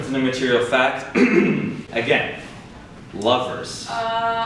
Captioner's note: clears throat